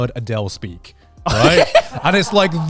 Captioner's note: laughing